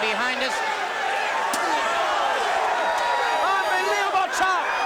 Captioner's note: crowd cheering